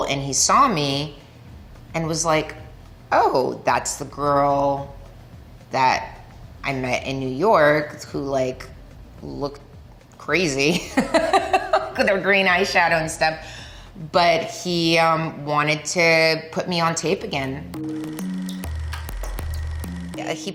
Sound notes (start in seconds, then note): 10.7 Milla laughing happily; 16.9 curious rhythmic music